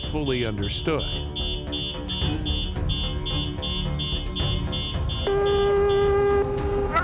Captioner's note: alarms